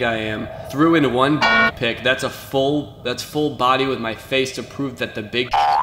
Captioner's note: alarm; boing